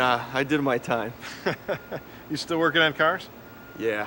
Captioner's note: chuckles